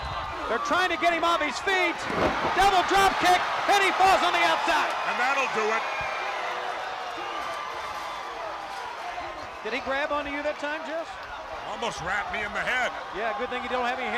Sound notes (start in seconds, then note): 7.9 crowd cheering